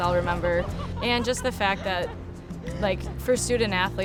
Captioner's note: girls laughing